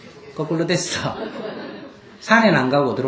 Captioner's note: audience Laughter